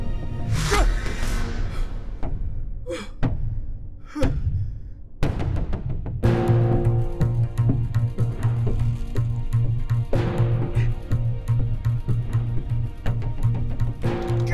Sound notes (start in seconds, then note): 0.5 rough breathing; 0.7 straining groan; 10.7 bracing breaths